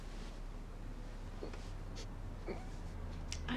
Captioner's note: sniffling